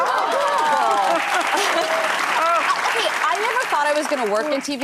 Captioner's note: audience applauding